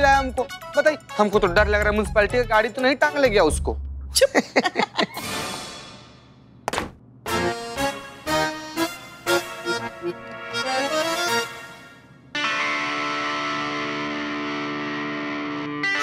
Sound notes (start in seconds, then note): 4.1 laughter; 6.1 footstep; 7.2 comical music